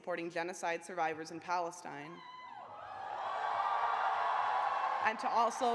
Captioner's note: cheers and applause